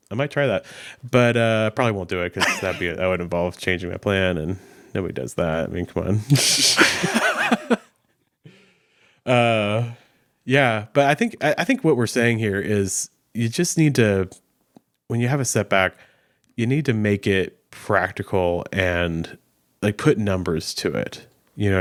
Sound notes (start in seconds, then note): 6.3 laughing